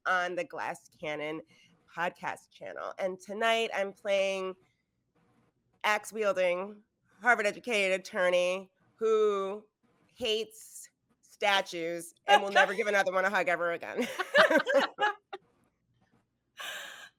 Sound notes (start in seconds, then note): 12.3 laughing; 14.0 all laughing